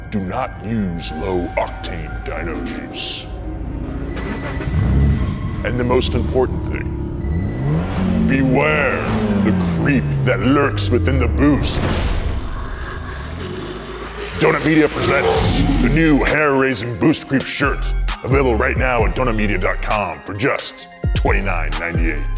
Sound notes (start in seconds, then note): 4.1 engine starts up; 7.6 engine revving; 13.0 monster growling